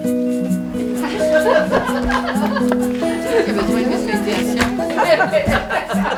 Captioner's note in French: rires et conversations qui s'entremêlent